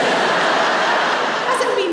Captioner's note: laughter